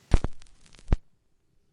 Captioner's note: glitch sound